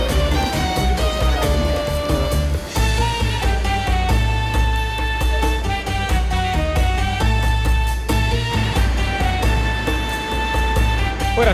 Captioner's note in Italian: Applauso